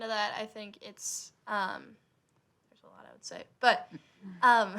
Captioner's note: laughing